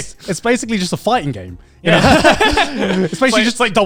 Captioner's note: laughs